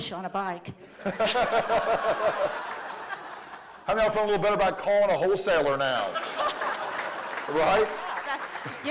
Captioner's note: laughter